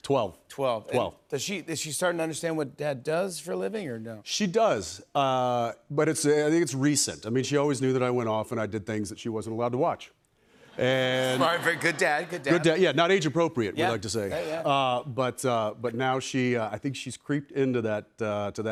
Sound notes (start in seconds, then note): 11.1 laughter